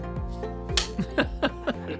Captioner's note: clapper